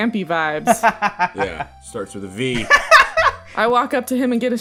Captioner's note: laughter